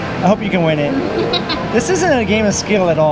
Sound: laughs

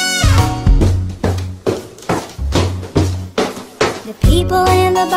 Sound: feet stomping

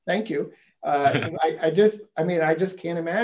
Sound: laugh

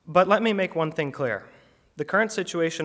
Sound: none

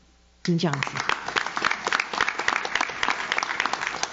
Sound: audience claps

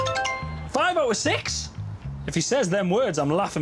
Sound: cell phone chimes

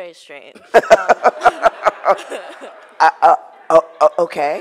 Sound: laughing

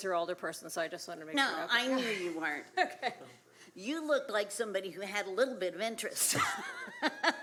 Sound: laughter

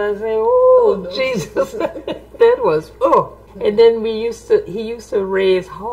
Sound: laughs

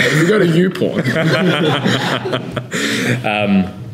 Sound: laughing

